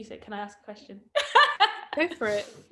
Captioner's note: laughs